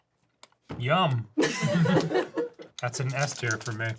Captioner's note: everyone laughs